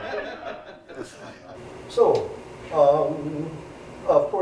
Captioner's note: laugh